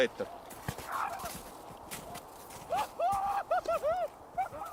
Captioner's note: maniacal screaming continues in the background